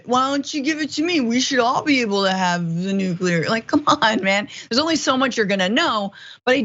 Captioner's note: laugh